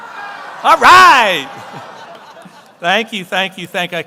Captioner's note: audience roars